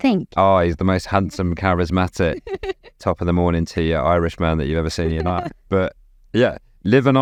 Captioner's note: laughs